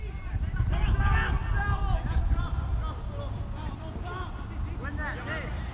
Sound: players talking and yelling

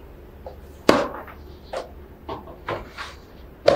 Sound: binder slamming

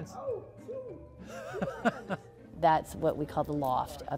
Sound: chuckles

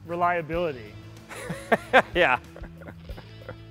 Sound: laughing

